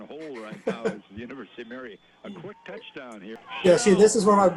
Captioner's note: all laugh